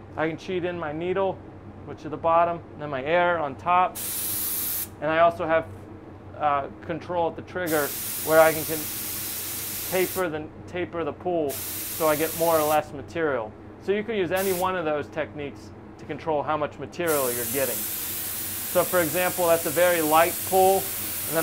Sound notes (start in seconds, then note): 3.9 paint spraying